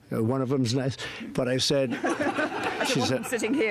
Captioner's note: laughter